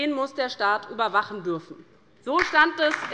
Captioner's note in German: Beifall bei der LINKEN